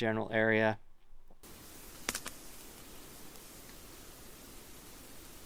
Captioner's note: branches crackle